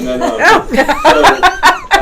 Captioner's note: laughing